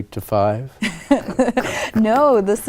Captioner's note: laughter